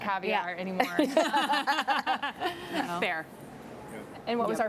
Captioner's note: laughs